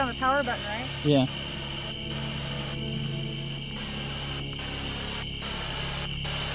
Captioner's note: static signaling